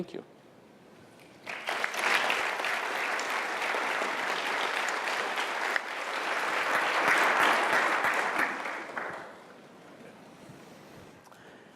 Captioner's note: applause